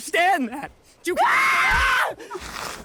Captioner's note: screams